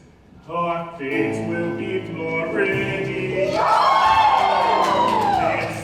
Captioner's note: ensemble cheering